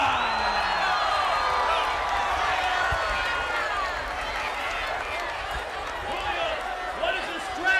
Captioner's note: applause